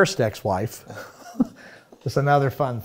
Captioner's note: chuckles